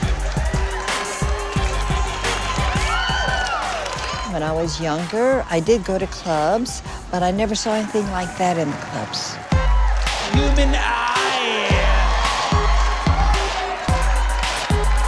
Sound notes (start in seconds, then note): 3.3 cheering intensifies; 12.2 crowd cheering; 14.8 upbeat techno music